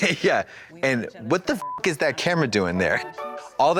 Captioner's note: beep